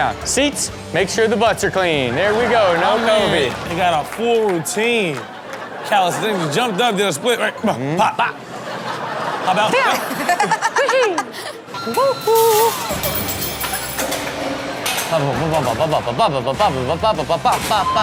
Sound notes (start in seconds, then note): 7.8 Chanel laughing; 7.8 scatting; 12.4 tableware clattering; 13.0 rock music continues; 15.4 scatting